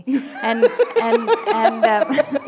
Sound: laughter

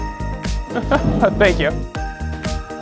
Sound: laughs

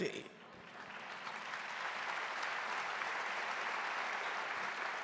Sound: audience applauding

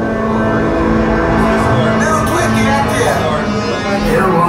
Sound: Nien Nunb in native language

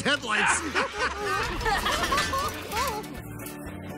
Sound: all laugh

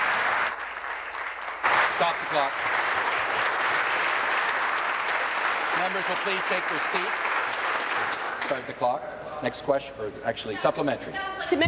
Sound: applause

